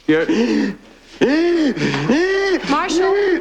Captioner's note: gasps